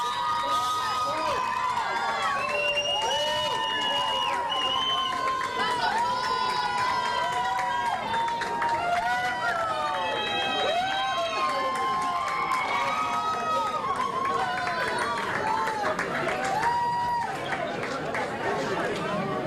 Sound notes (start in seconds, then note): 9.4 cheers and applause